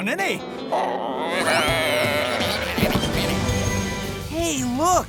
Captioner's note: croaking